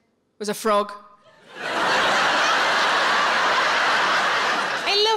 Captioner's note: audience laughing